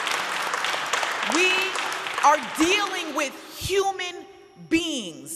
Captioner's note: audience applauding